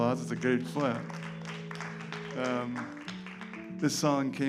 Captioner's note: applause